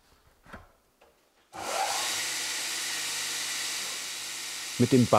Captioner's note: the sander begins to whir